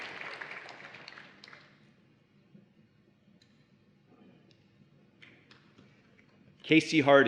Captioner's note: applause and Cheering